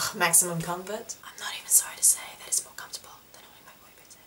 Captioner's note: whispered